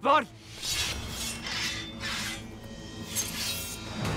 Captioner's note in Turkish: Kılıç çekme sesleri